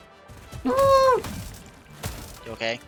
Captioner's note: trying not to die noise